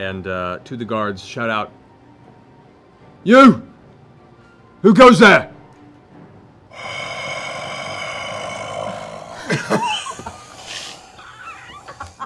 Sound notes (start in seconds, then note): 6.7 heavy breathing, growling; 9.9 laughing